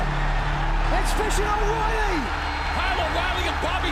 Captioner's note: crowd cheering